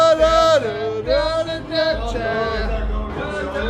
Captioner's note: humming